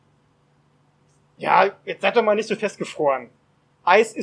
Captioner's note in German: verärgert